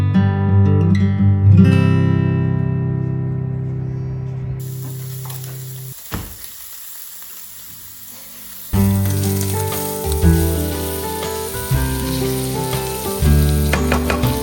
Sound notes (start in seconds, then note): 4.6 sausage sizzling; 8.7 soft folk music